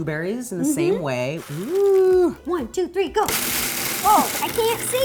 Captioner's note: blueberries blending